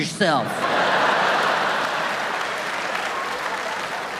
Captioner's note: audience laughing